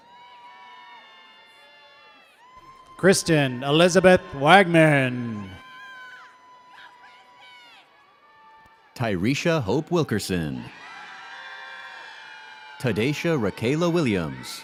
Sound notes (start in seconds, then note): 5.5 audience cheers